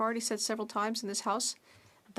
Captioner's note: speaking French